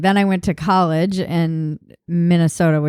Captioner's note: none